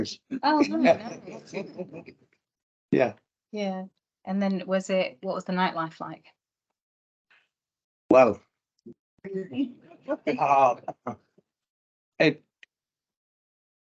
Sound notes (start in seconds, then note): 0.5 panel laughs; 10.3 audience and panel laugh